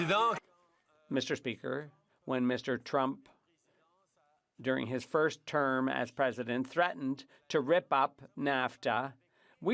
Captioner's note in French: applaudissements